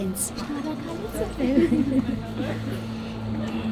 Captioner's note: in Armenian